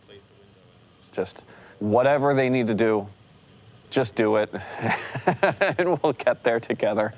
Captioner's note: laughs